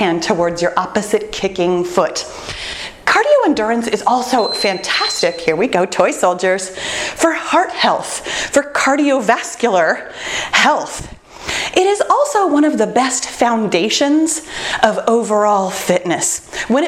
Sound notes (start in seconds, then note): 4.3 timer beeps